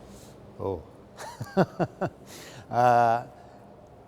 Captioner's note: laughs